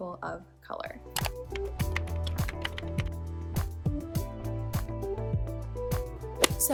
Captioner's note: keyboard typing